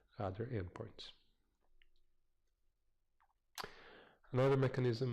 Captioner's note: pause